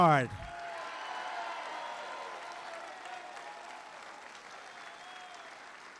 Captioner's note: applause